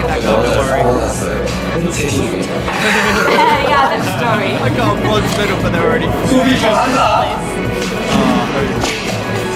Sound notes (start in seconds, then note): 2.4 laughs